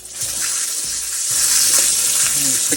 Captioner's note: water splashing